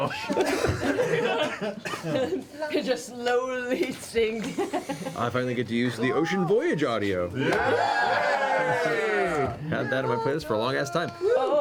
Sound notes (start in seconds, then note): 7.3 all cheer